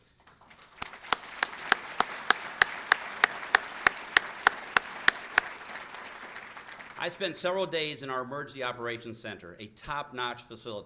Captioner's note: applause